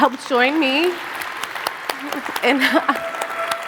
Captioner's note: audience applauding